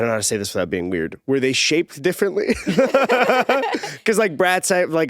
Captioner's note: laughs